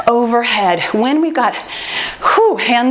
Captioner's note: timer beeps